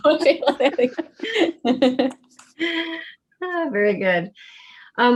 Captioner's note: laughter